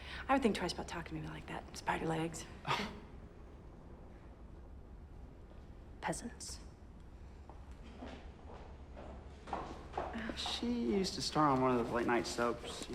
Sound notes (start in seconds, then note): 9.4 shoes clacking